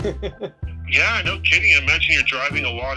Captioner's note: laughs